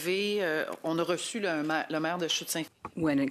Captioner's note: speaking in French